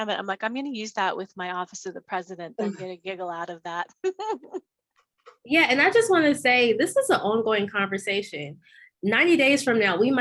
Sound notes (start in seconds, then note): 4.0 giggles